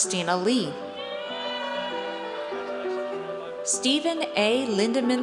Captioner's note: audience cheers